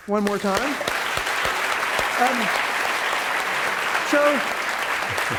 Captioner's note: applause